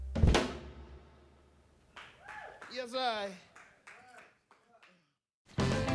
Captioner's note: cheers and applause